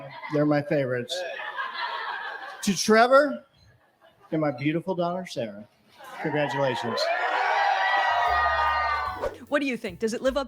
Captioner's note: cheering